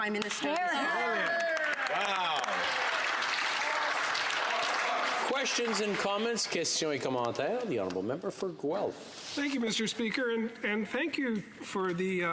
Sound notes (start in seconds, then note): 6.1 some applause